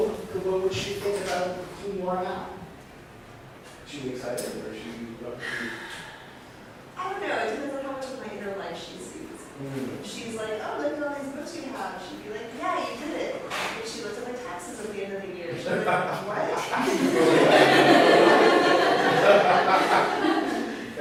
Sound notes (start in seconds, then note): 16.8 laughs; 19.7 laughter